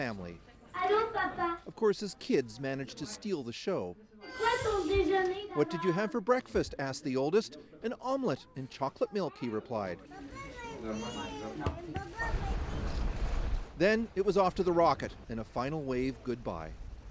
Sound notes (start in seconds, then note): 8.4 speaking French